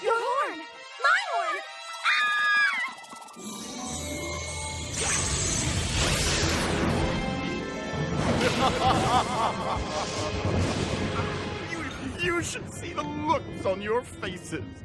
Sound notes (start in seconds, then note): 8.4 laughs